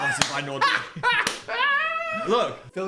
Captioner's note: Dan laughing